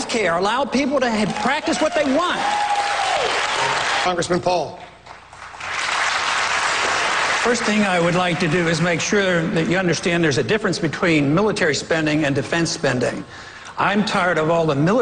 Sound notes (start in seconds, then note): 1.2 cheers, applause; 5.1 applause